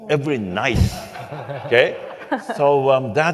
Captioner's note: laughing